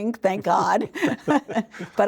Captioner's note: laughing